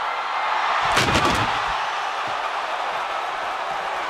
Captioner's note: table crashes